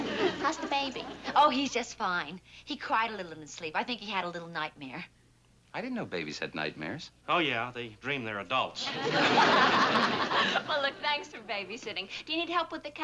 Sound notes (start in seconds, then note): 8.8 laughing